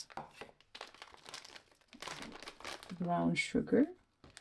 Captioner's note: crinkle of plastic